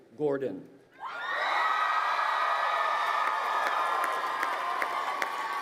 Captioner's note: crowd cheering and applauding